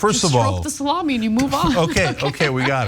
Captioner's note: laugh